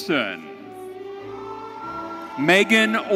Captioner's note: audience cheering